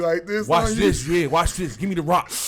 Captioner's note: laughs